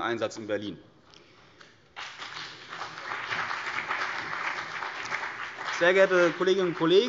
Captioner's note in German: Beifall CDU und BÜNDNIS 90/DIE GRÜNEN